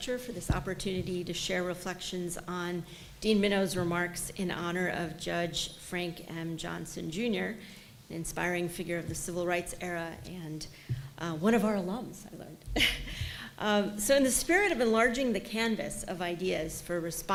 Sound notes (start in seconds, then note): 12.8 chuckles